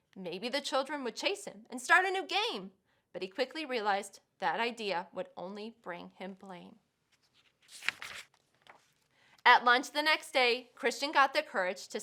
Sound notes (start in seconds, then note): 7.1 paper rustles